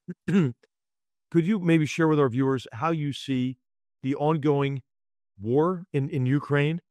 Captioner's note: cough